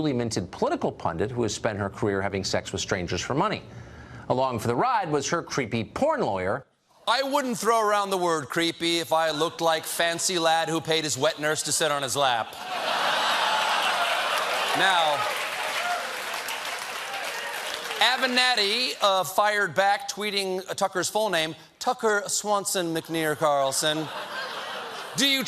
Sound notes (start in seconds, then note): 12.5 laughter; 13.1 applause